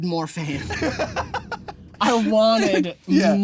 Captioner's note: laughing